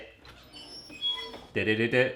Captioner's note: creaking